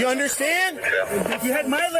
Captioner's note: radio chatter